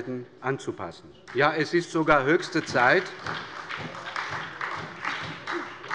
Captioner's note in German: Beifall bei der SPD